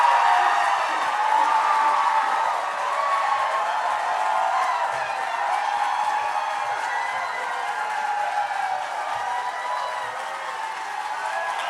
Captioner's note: cheering